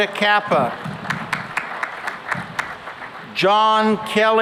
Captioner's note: applause